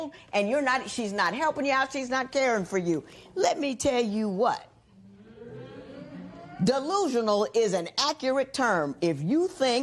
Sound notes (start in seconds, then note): 5.1 spectators murmur